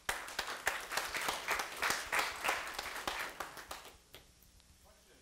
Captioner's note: applause